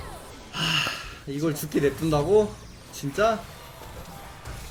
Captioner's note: Sigh